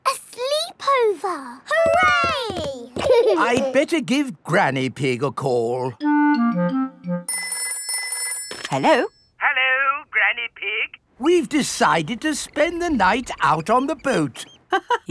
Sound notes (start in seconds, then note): 7.3 telephone ringing